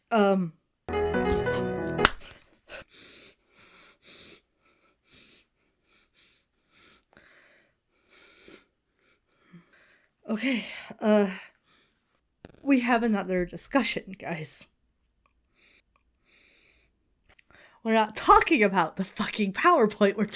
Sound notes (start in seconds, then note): 0.9 ringtone plays; 1.2 Hana slaps hands; 2.7 Hana breathing frantically